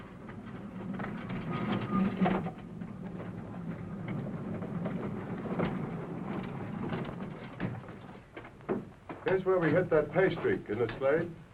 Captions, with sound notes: [ TROLLEY RATTLING ] Here's where we hit that pay streak, right?